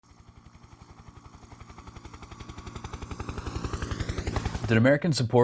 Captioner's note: helicopter in flight